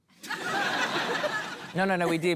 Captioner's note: laughter